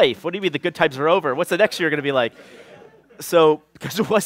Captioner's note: laughter